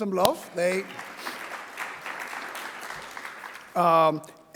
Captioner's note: audience clapping